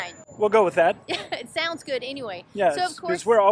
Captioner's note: laughs